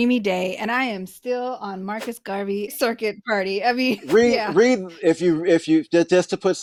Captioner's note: whoosh